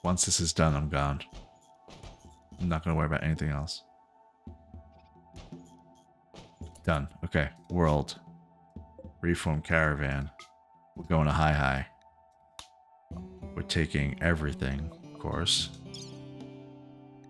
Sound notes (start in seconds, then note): 3.9 silence